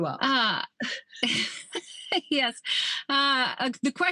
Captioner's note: laughs